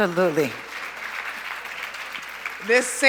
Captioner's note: applause